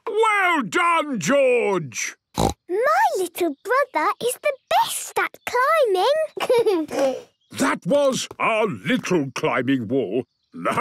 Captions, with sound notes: - Well done, George! (snorts) - My little brother is the best at climbing! (giggles) - That was our little climbing wall.